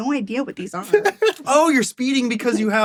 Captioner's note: laughs